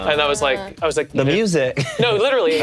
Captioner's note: laughs